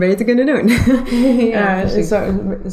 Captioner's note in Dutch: lachen